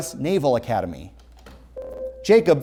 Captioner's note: ringing